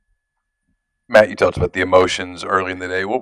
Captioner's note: voiceover